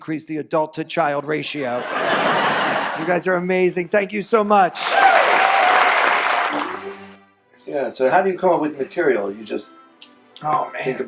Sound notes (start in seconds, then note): 1.5 audience laughs; 4.7 audience applause